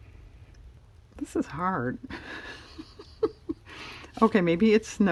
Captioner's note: laughs